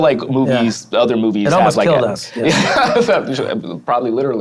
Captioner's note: laughs